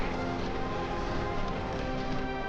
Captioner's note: splashing